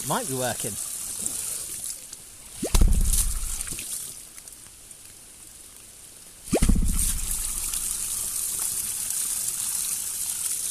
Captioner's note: more pops